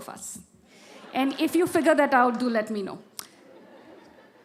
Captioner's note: laughter